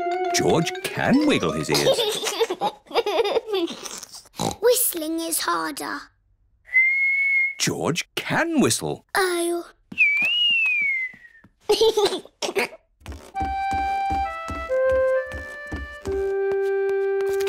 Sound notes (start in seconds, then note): 1.2 giggles; 4.3 snorts; 6.6 whistling; 10.0 whistling and giggling